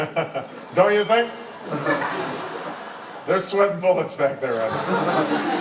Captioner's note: laugh